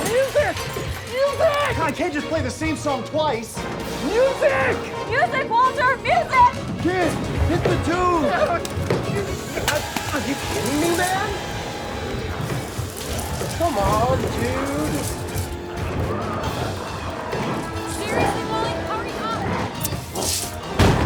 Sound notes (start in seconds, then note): 8.8 Walter yelps